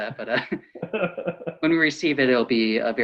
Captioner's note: laughs